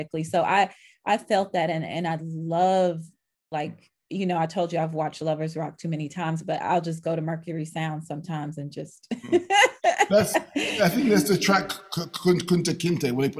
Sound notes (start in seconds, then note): 9.1 laughing